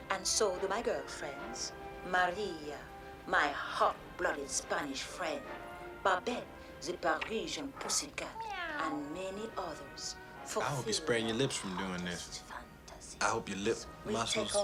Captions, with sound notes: I need a man, and so do my girlfriends. Maria, my hot-blooded Spanish friend. - Babette, zee Parisian pussycat... - [Meows] - And many others. - I hope you sprain your lips from doin' this.